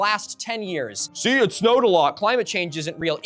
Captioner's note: mocking